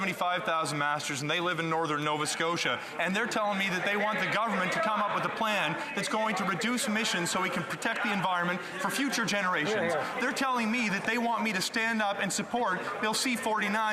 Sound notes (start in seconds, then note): 1.0 speaking French